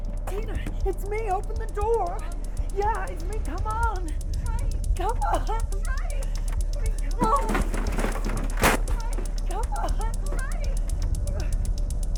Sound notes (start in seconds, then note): 7.2 banging on door